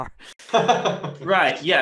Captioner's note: laughing